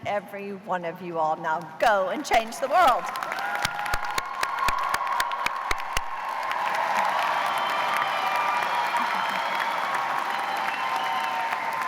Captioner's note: cheers and applause